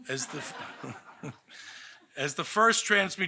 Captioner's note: audience laughing